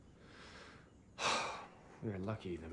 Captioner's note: sighs